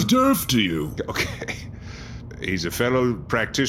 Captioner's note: exasperated scoff